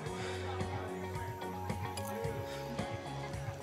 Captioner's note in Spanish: bullicio de la fiesta